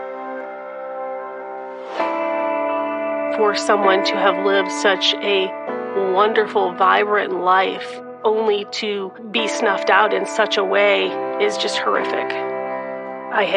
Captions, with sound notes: (air whooshing)(air whooshing) - For someone to have lived - d such a wonderful, such a wonde only to be snuffed out in onlyn such a way is just such a way .